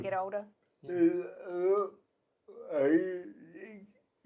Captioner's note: murmurs